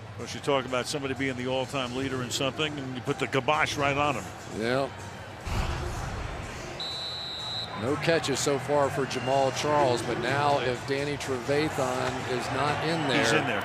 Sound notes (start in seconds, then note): 6.7 whistle